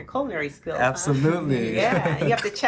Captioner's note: laughing